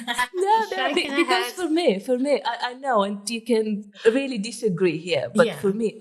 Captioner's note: laughing